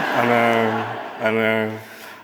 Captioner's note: audience laughing